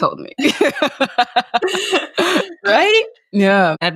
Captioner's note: both chuckling